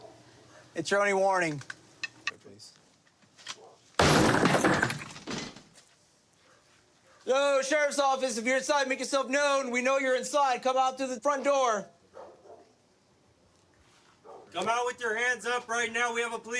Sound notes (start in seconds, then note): none